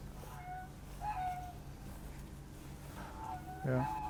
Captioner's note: frogs and geese noises in the background